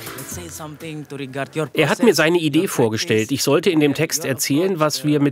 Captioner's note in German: auf Englisch